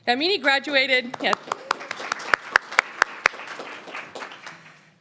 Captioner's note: applauding